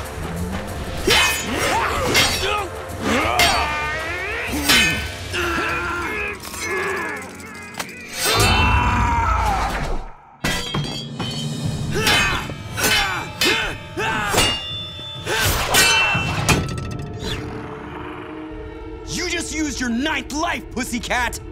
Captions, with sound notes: [grunting] [grunting] [screaming] [grunting] You just used your ninth life, pussy cat!